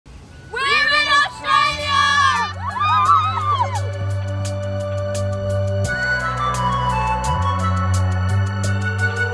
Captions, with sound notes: - We're in Australia! (group cheering) (energetic music)